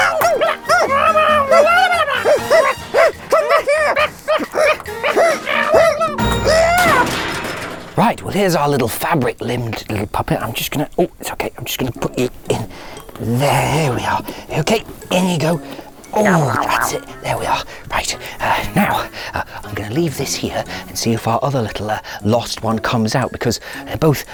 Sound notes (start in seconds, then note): 4.6 shrieks and strains